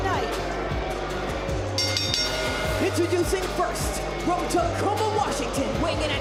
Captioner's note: bell